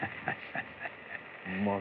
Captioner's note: chuckles